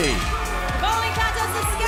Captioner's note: bell ringing